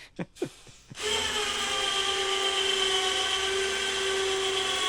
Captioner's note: machine whirring